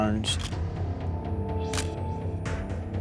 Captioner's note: camera shutter click